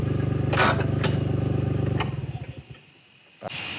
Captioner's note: brakes creaking